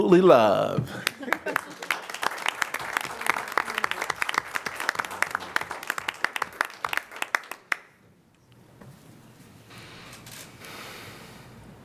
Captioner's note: applause